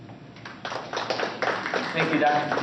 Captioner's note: applause